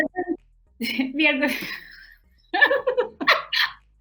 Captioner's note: laughing